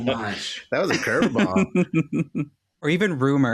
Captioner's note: laughs